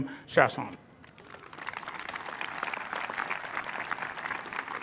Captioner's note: applause